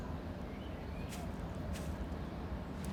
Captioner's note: birds chirping